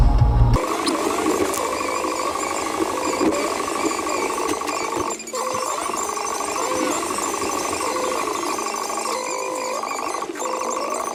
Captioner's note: fast forward sounds